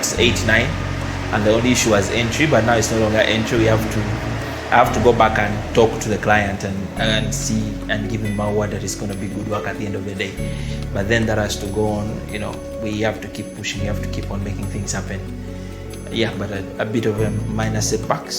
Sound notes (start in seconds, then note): none